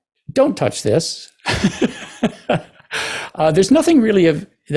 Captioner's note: chuckle